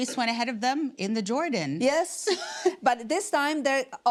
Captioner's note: laughs